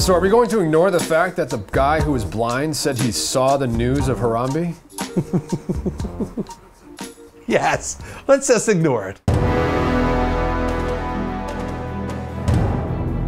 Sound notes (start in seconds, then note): 5.0 chuckling; 9.3 dramatic orchestral music